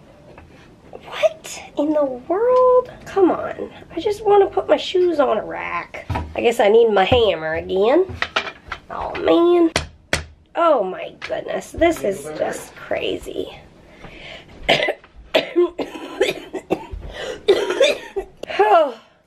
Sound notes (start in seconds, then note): 10.1 hammers; 15.3 coughing